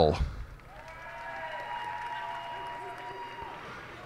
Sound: cheers and applause

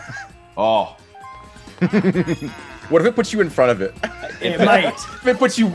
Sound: laugh

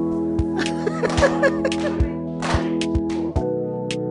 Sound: laughter

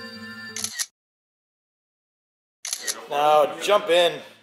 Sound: camera clicking

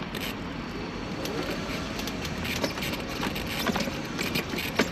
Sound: wheelchair motor revs

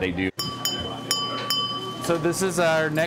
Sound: ding Ding Ding

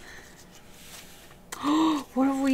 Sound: gasps

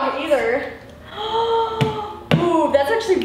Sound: gasps

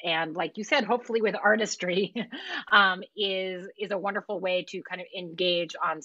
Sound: laughs

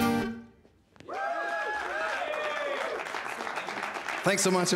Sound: cheers and applause

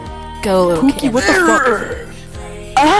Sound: bad boy alpha growl

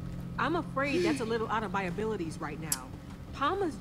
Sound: Sabrina sighs

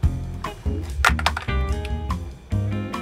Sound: phone clatters; upbeat music

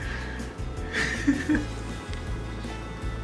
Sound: laughing

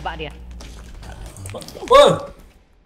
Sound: scream

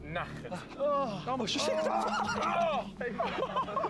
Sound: groans and laughter

